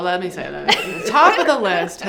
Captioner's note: giggling